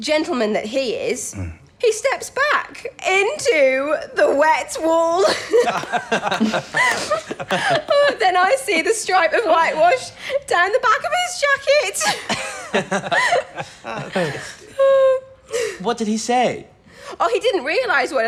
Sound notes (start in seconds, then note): 5.2 laughter; 11.9 laughter